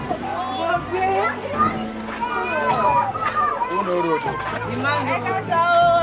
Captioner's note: people speaking in foreign language